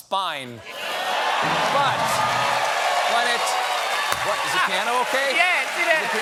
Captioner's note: cheers and applause